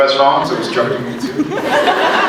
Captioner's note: laughs; scattered laughs